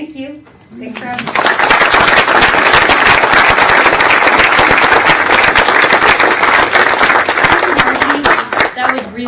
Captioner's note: applause